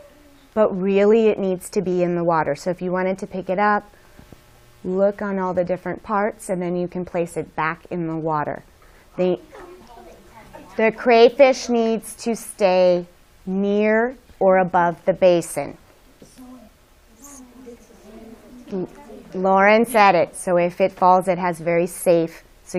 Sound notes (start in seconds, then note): 17.1 students chattering